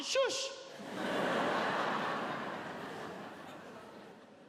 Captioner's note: audience laughs